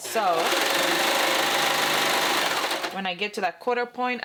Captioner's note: sewing machine clunking